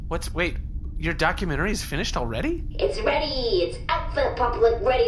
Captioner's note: chipper